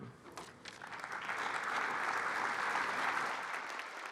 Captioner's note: applause